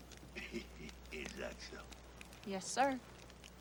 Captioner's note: laughs